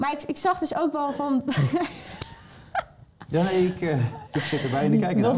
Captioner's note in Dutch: gelach